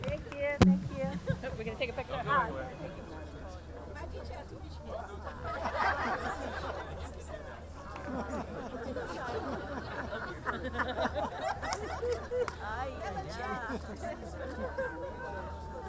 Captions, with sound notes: Thank you, thank you. - We're gonna take a picture. (all laughing) I haven't changed in 23 years.